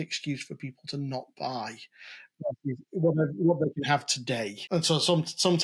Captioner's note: audio glitching